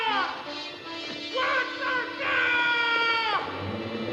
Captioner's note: SCREAMlNG